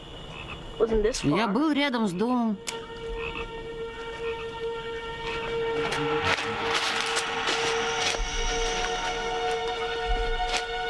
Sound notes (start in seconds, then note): 3.5 croaking Continues